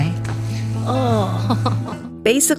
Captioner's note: chuckling